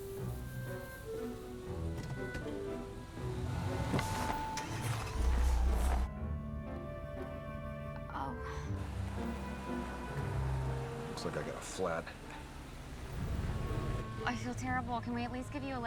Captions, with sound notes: [air hissing] Oh... Looks like I got a flat. I feel terrible. Can we at least give you a lift?